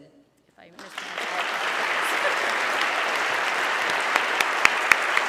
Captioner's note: audience clapping